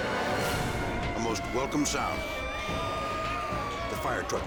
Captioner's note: firetruck sirens wailing; tense dramatic music